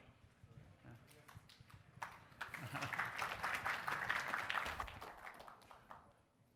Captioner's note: applause